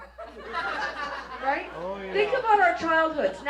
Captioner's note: laughter